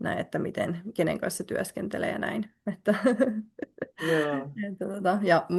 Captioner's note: naurua